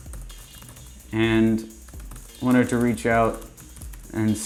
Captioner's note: keyboard typing